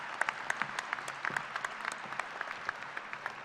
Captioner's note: applause